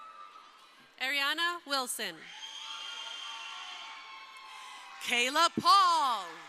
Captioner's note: crowd cheering; crowd cheering